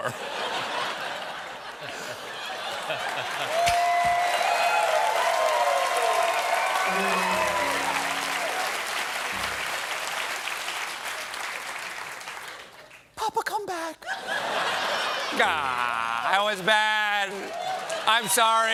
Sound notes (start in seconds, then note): 2.6 cheers and applause; 2.9 voice breaking